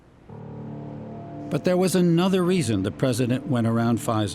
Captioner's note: voice-over